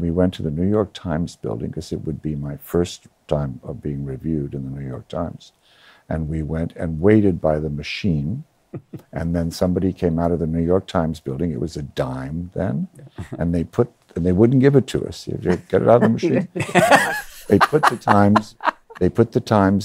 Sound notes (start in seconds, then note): 15.4 laughs